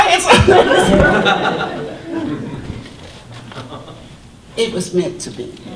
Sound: audience laughter

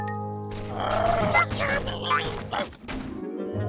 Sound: squeaking

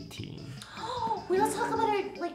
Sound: gasp

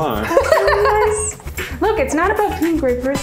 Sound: laughs

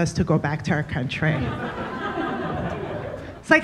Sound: audience laughing

